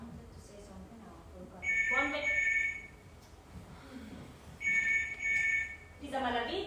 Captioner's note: phone rings